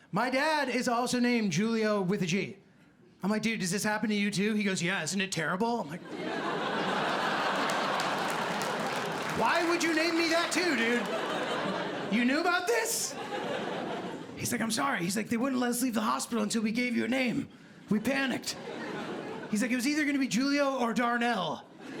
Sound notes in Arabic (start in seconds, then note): 6.7 ضحك; 6.8 تصفيق